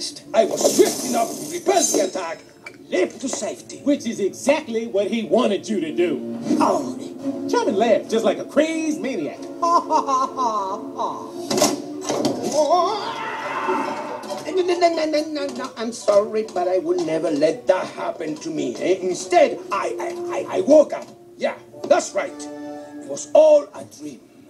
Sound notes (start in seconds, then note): 10.5 cackles; 12.5 shrieking; 14.6 sputtering